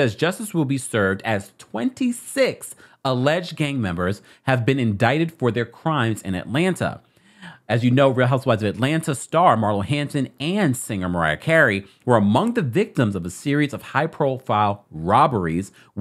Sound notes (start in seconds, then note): none